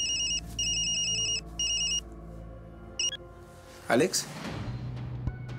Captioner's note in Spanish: Suena el teléfono